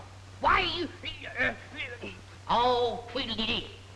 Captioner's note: grunting